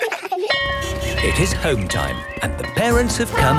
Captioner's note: laughter; bell clanging